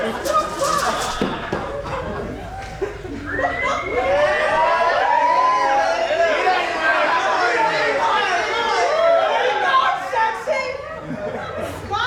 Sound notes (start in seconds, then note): 3.2 men whistle and catcall